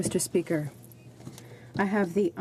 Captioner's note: speaking French